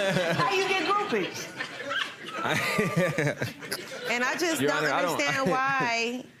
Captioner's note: laughs; audience laughing